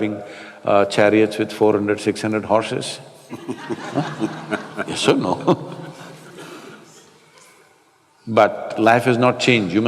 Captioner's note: laughter